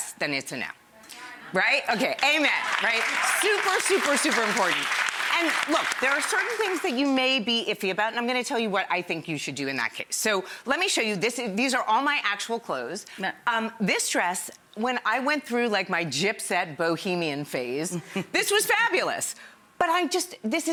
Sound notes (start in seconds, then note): 2.4 audience cheers; 17.7 laughing